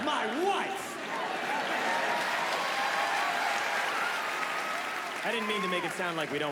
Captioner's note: audience cheers and applauds